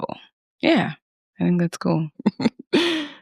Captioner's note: chuckles